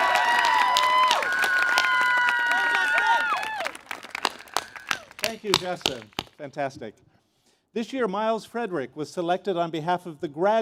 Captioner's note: cheers and Applause